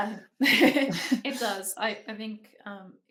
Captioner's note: women chuckling